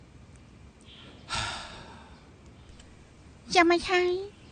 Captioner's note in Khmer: ដកដង្ហើមធំ